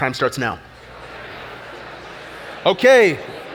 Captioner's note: audience chatter